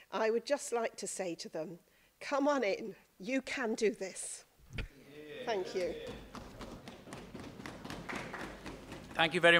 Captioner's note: applause